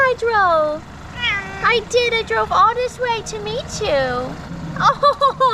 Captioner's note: cat meows